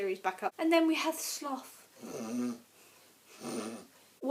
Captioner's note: snores